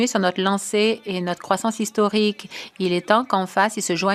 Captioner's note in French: voix de l'interprète